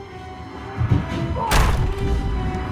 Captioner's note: screams